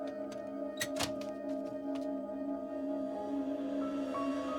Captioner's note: letterbox clacks